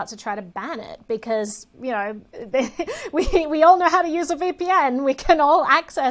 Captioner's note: laughs